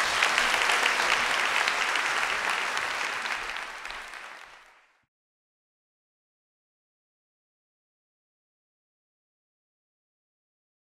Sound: applause

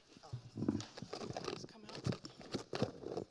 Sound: mic rattling

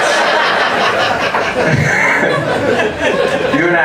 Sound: audience laughs

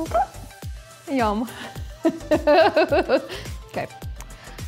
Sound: laughs

